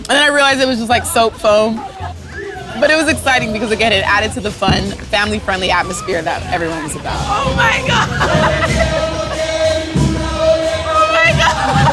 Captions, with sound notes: and then I realized it was just like soap foam, but it was exciting because again, it added to the fun, family-friendly atmosphere that everyone was about. Oh my God, (laughing) oh my God. (laughing)